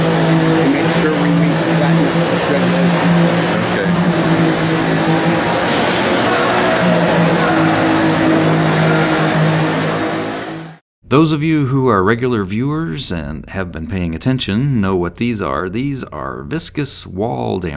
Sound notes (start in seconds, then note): 2.6 general loud construction noise, men talking and shouting